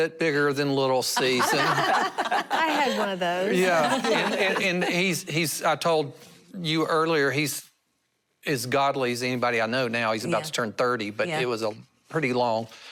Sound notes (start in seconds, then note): 3.3 laughter